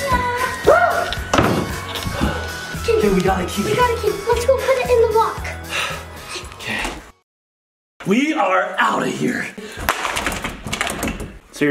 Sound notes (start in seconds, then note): 1.2 door slams; 5.5 breathes heavily; 10.0 shaking lock against door